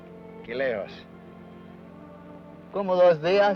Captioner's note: Ben speaks foreign language